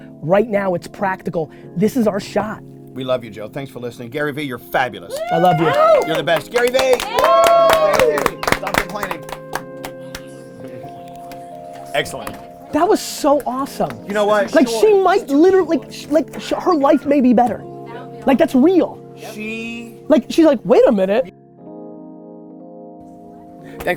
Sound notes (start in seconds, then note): 5.1 group cheering; 7.5 group applause and cheering